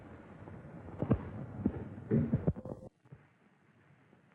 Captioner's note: footsteps